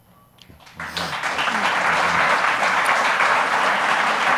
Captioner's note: audience applauds